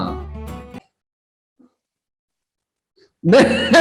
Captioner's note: awkward silence